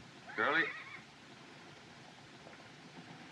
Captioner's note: horse Whinnies